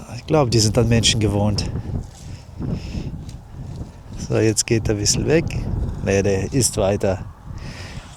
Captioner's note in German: schnauben